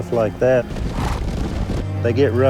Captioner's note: snorting